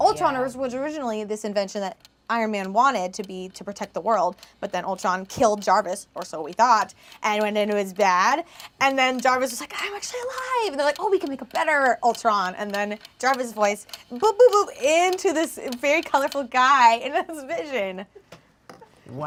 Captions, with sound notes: Ultron was originally this invention that Iron Man wanted to protect the world, but then Ultron killed Jarvis, or so we thought, and then was bad. (clock ticking) And then Jarvis was like, "I'm actually alive!" And they're like, "Oh, we can make a better Ultron!" And then Jarvis voice, boop-boop-boop, into this very colorful guy, and it's Vision.